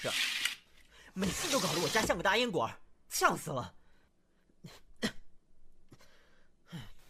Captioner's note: cough